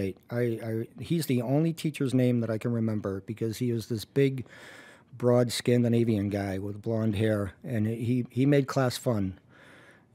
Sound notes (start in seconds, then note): none